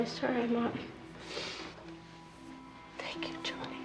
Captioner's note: sniffs